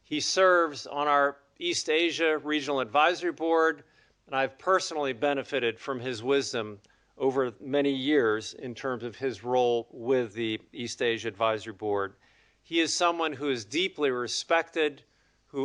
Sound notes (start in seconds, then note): none